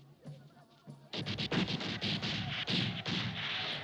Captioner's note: guns firing